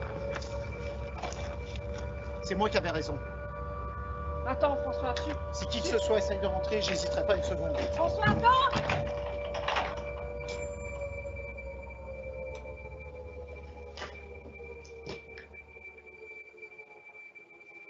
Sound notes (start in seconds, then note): 8.0 door closing; 8.8 lock turning; 10.6 dramatic music continues